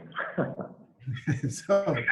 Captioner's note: laughing